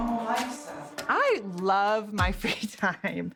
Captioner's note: laughs